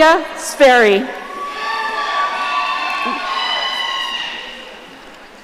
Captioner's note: audience cheering